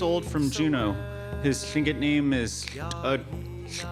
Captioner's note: speaks Łingít